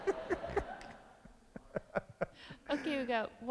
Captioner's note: all laugh